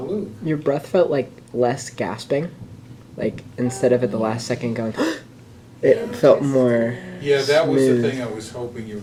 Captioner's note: gasps